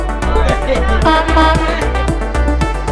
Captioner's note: truck horn honking